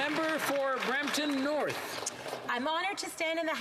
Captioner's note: some Applause